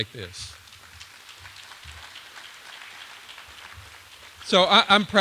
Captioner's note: applause